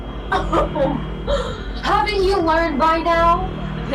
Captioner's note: laughs